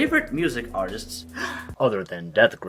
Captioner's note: gasp